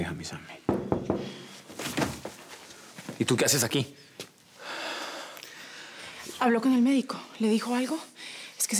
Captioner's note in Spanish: Toques en la puerta